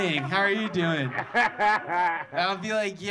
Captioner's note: audience laughing